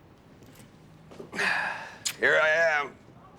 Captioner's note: Nick sighs